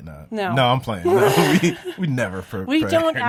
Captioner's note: laughs